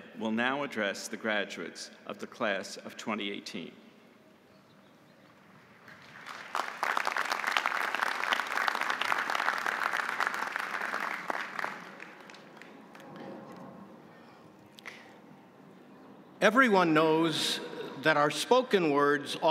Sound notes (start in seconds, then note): 5.8 audience applauding